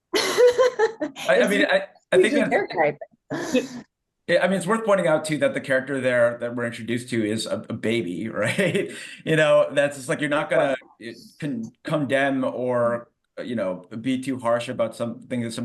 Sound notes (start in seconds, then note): 0.1 laughs; 1.2 audio glitches